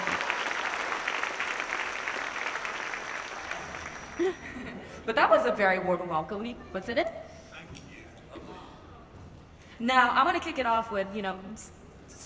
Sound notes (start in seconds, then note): 4.2 laughs